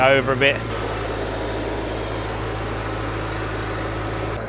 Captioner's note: engine running